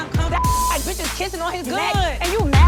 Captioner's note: beep